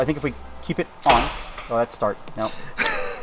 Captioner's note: metals clicking